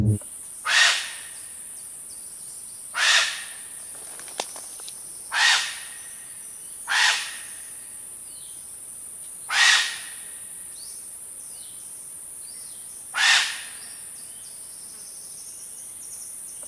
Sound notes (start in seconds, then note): 0.0 birds chirping; 0.7 bird squawking